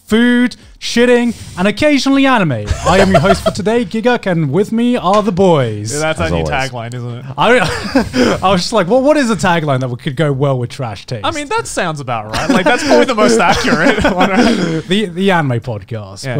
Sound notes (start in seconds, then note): 7.2 laughs; 12.3 laughing